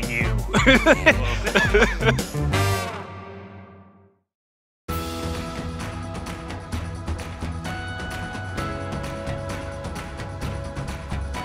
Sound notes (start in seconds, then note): 0.1 laughing